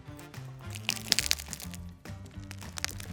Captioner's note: biting crunch